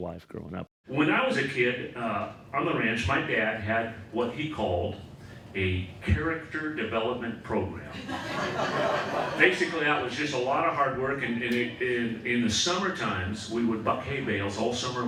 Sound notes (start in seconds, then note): 7.9 audience laughing